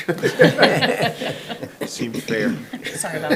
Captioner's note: attendees laughing